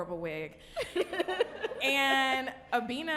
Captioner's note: audience and podcasters laughing